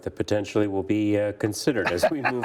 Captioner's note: laughs